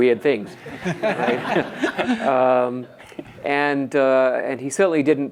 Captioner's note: audience laughs